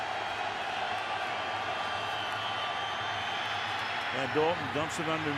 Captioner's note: crowd cheering